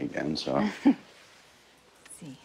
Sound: chuckles

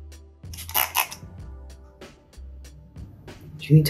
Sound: bottle pump squeaking

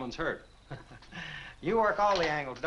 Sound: chuckling

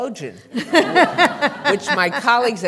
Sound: laughter

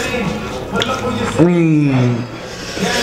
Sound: orgasm

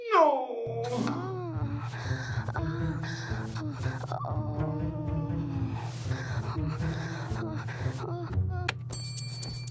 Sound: moans

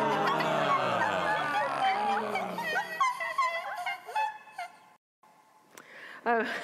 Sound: laughing; audience applauding

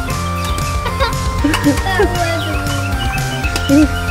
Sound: laughing

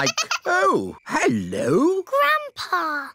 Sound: giggling

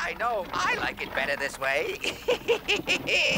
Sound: laughs

